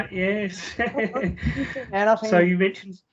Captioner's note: both Laugh